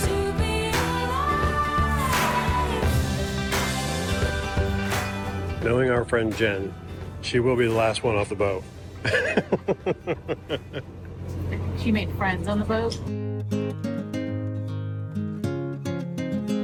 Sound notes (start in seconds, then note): 9.0 chuckles; 13.0 calm music